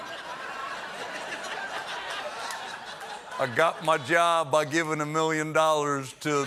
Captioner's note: laughter